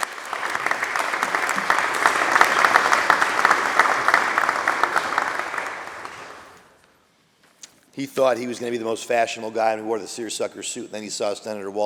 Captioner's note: applause